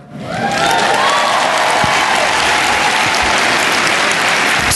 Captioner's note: cheering and Applause